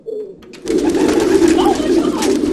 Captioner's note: the sound of a flurry of pigeons and wings